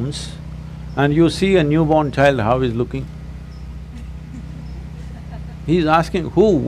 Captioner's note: few Laugh